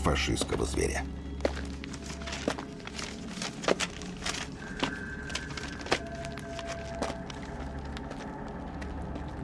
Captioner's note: sound of footsteps